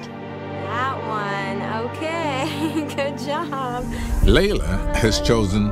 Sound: laughs

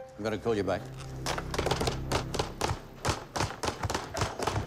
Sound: banging on desk

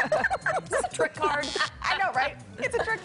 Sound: laughter

